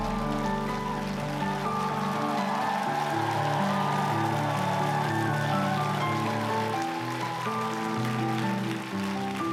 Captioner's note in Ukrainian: оплески